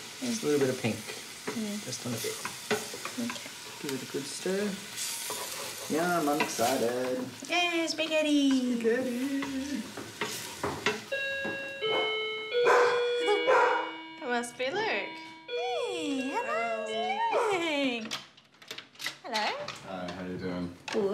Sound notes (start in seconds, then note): 11.1 doorbell chimes, ella barks; 13.2 chuckles